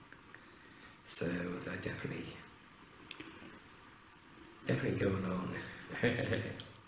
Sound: laughing

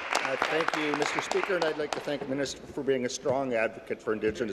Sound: applause

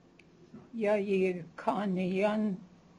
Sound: non-english speech

